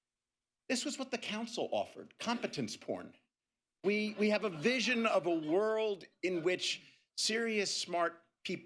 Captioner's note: laughter